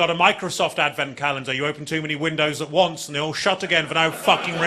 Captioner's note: audience laughing